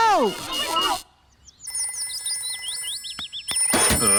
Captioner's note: phone rings